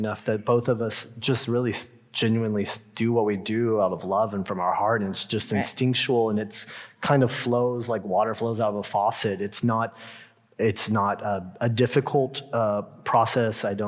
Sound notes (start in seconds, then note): none